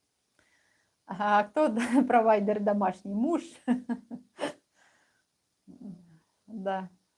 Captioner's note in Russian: смех